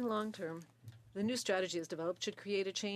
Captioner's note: speaking French